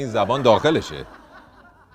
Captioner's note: laughter